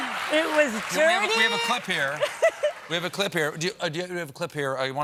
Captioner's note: applause